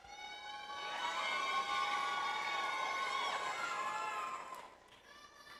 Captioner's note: audience applauds